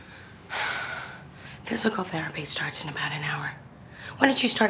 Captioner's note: sighs